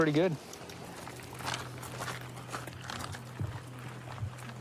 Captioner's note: footsteps crunching